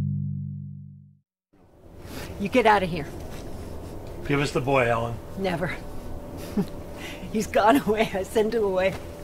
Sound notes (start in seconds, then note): 6.4 laughs